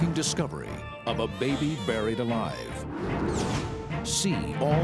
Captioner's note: baby cries